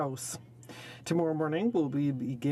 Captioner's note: speaking French